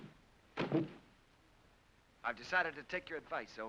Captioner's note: pack thumps